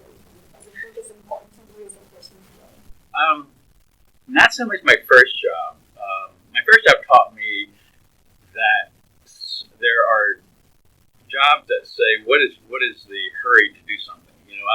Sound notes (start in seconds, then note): 9.8 laughs